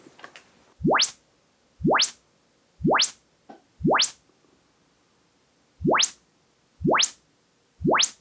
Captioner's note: measurement sounds